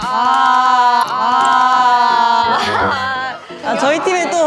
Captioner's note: تنهيدة عميقة